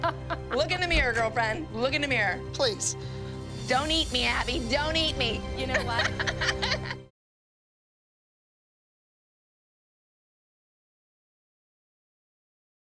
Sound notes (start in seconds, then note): 5.7 laughs